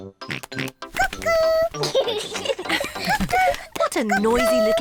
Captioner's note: both laugh; oinks; both laugh